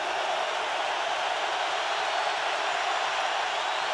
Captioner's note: cheering